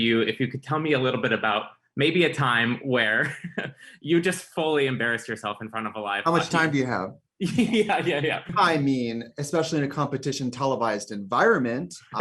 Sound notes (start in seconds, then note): 3.2 chuckles; 7.4 giggles